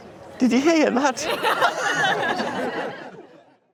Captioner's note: all laugh